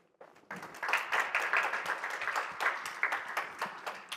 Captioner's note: applause